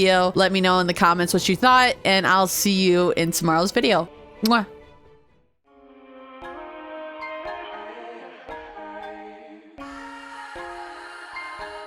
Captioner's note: kiss